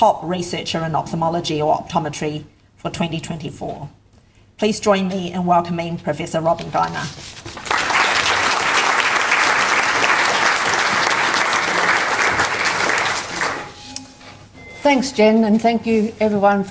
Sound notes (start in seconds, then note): 7.5 audience applauds